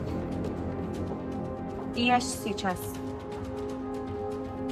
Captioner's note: Tess speaks in foreign language